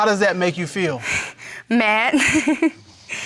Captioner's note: laughs